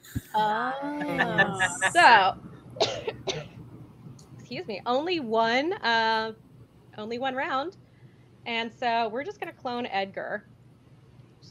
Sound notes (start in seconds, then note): 1.2 overlapping chatter and laughter; 2.8 coughs